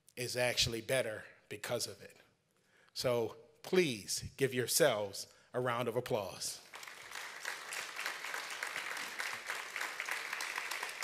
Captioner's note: applause